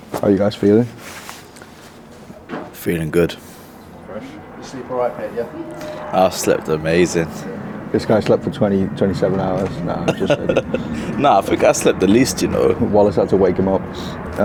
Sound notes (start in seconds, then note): 9.5 laughs